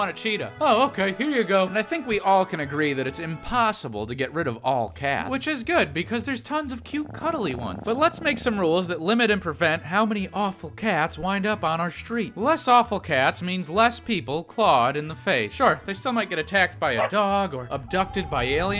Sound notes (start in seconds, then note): 5.0 purrs